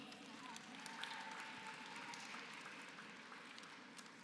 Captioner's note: applause